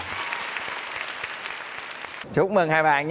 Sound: applause

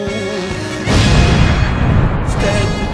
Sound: explosion Sound

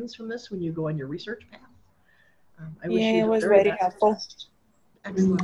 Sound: multiple voices

